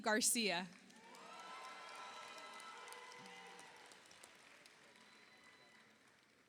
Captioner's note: audience applauds; audience cheers